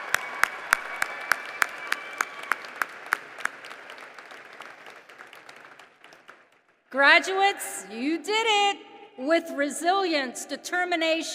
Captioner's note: applause